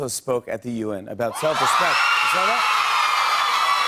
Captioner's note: cheers and applause; cheers and applause continue